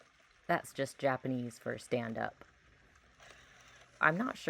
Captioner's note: Luna repeats command in garbled voice; gear noises